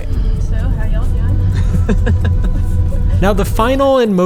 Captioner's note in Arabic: يضحك